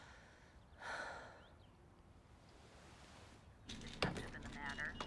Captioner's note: Bryn exhales sharply